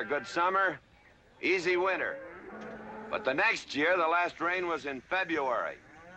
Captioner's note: none